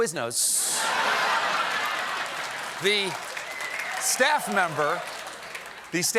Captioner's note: laughter